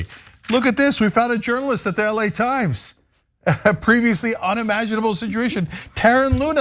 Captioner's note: laugh